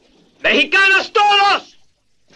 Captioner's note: Spanish spoken audio